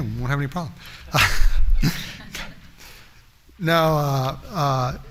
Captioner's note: laughter